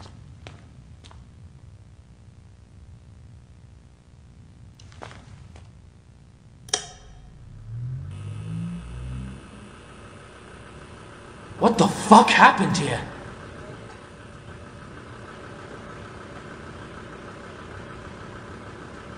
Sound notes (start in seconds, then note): 6.6 light switch flip; 6.8 sounds of maintenance equipment booting up